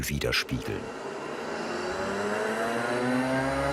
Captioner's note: loud engine noise